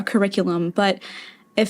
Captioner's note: inhale